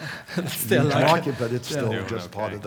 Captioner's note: laugh